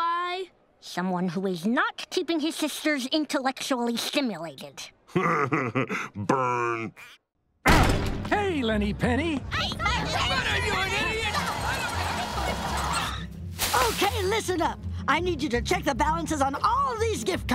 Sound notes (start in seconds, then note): 5.1 laughing; 7.0 groaning; 9.6 all yelling